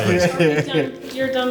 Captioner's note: laughs